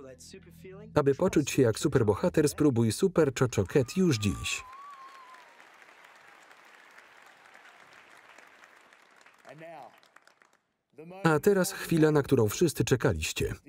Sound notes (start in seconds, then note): 3.5 audience cheering; 3.6 audience applauding